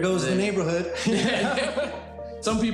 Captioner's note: both laugh